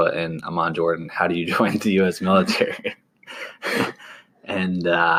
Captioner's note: chuckles